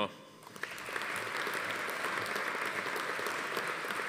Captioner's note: audience applauding